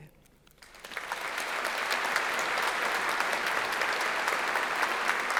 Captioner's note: audience applauding